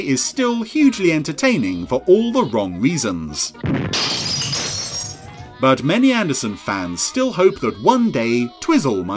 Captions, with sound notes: is still hugely entertaining for all the wrong reasons. (cannon explodes) (glass shatters) But many Anderson fans still hope that one day Twizzle